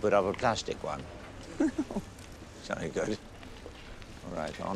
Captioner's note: laughing